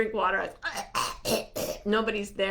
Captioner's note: mimicking choking